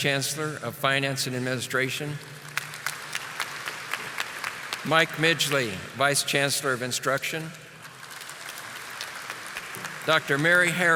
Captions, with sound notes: I would also like to acknowledge the administrative team and other staff here this evening. Please stand and be recognized. (audience applauding)